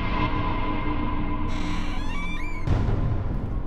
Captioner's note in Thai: เสียงประตูเปิด